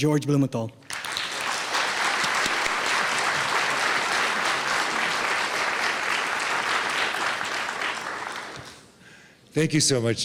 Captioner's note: clapping